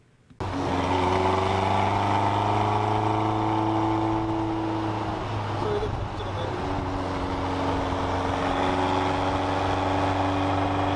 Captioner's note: engine whirring